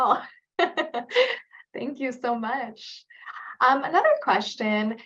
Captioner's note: laughs